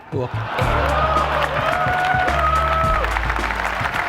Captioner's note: applause